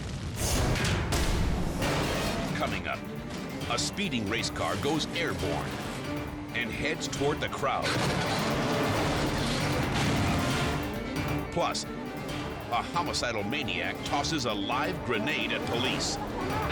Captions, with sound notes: (dramatic music) Coming up, a speeding race car goes airborne and heads toward the crowd. (car crashing) Plus, a homicidal maniac tosses a live grenade at police.